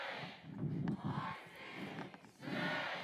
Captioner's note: crowd